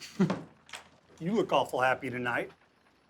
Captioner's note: laughs